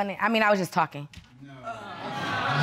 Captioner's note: indistinct chatter